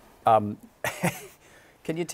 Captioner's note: chuckles